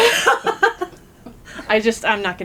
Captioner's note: laughter